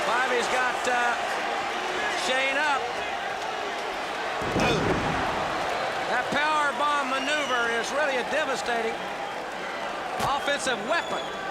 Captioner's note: crowd chatter